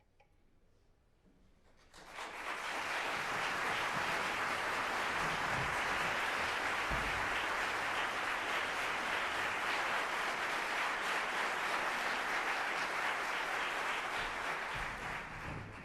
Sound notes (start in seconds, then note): 1.7 applause